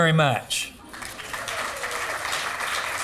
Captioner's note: applause